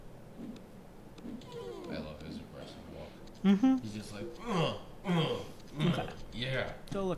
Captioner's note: grunting